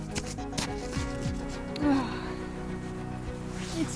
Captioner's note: sigh